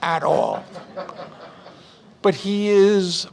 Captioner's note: audience Laughs